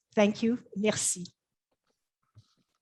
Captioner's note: speaks French